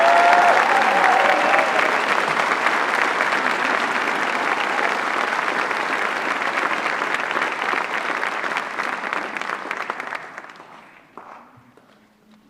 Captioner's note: applause